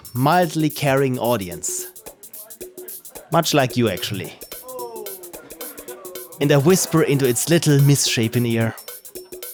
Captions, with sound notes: mildly carrying audience much like you actually [audience boos] And I whisper into its little misshapen ear: